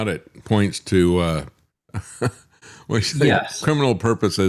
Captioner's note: laughs